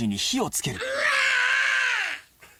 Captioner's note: screaming